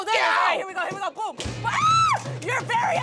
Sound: screams

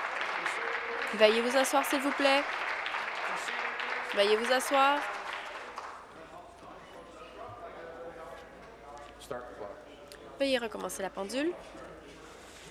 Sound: applause

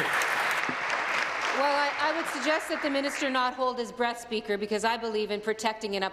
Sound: applause

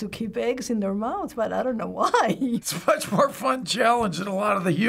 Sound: chuckles

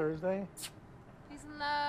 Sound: Amethyst smooches

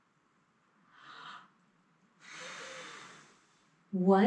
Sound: deep breath

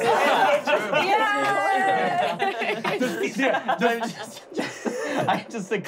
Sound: clapping

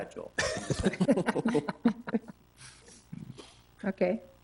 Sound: attendees chuckle

